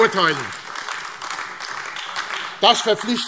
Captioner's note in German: Beifall : Da klatscht kein anderer!